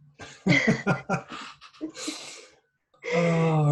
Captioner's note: laughter